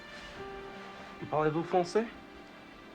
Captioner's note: french